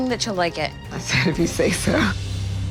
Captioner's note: chuckles